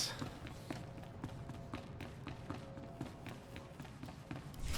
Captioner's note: footsteps